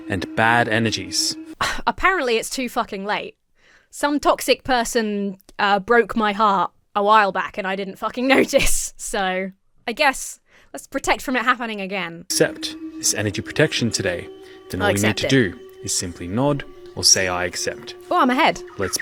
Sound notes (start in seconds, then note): 1.5 scoffs; 8.4 laughs